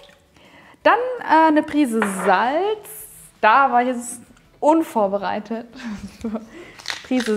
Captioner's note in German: lacht